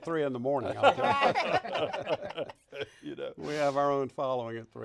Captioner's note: all laughing